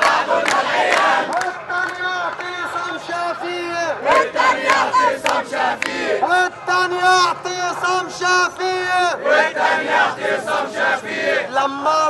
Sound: chants

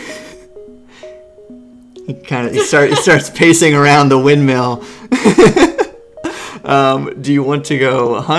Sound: both laugh

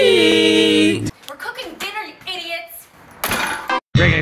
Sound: doorslams

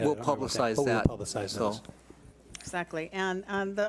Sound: speaking faintly

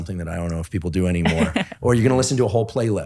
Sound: laughing

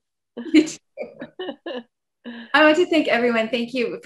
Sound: laughs

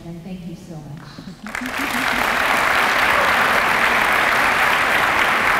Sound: applause

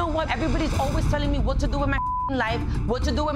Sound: beep

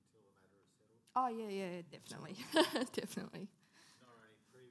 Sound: laughing

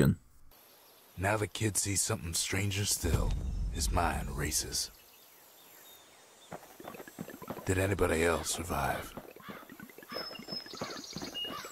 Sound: in-game audio

